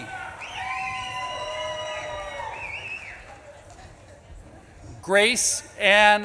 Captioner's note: audience claps and cheers